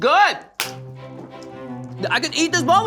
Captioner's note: claps